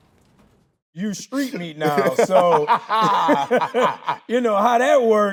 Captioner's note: Tyler laughing